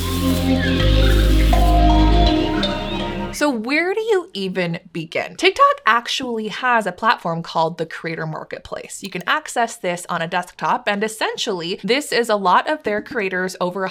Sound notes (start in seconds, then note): 0.0 bright music; 0.1 birds chirping